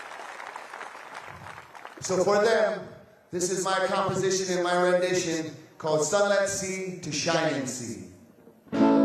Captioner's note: applause